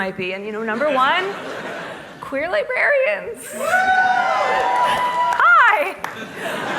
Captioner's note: applause